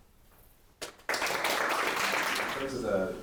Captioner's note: applause